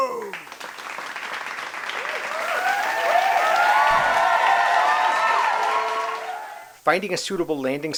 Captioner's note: small audience clapping and cheering